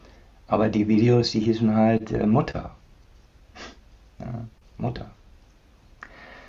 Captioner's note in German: schnauben